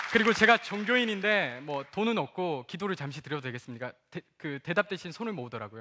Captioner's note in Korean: 박수와 환호